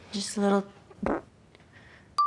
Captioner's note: farts